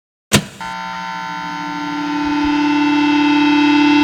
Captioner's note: equipment buzzing